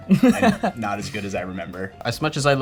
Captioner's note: laughing